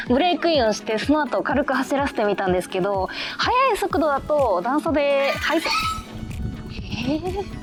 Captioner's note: animal barks